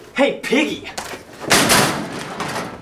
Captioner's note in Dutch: kastje slaat dicht